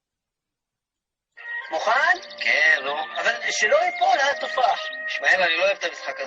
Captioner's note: speaking in a foreign language